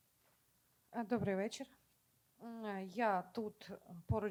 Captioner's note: speaking Ukrainian